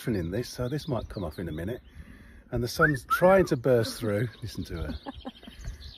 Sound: whistles

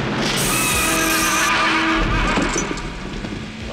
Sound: whinnying in pain

